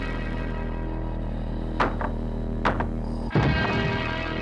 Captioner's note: pounding on wall